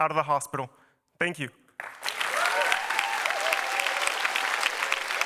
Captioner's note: applause